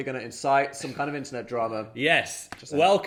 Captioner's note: chuckling